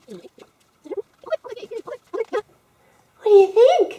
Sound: fast forward sound

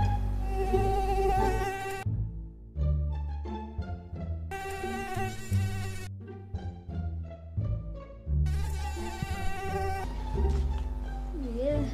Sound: mosquitoes

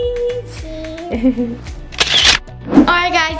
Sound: laughs

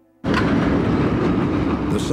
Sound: train going

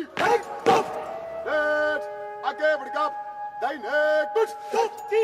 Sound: officer shouting orders in hindi

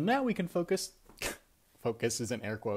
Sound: scoffs

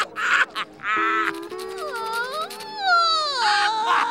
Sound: Squidward laughs; crying

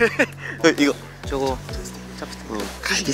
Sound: discussing in whispers

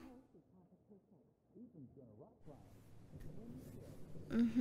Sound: sound: caressing skin

